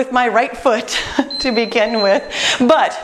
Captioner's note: beeping